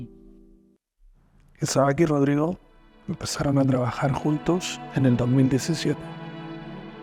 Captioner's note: narrator speaking in foreign language